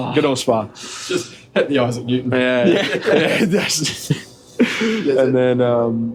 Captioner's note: laughter